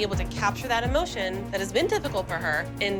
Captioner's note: none